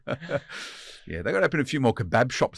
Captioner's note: all laughing